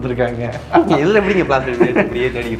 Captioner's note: laughs